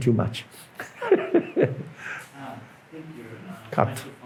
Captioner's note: laughs